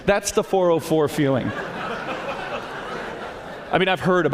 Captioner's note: laughter